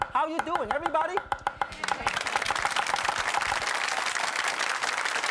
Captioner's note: audience applauds